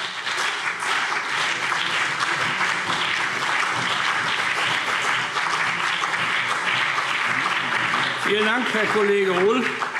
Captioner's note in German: Beifall CDU und BÜNDNIS 90/DIE GRÜNEN